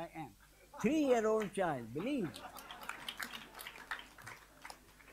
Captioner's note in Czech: smích a potlesk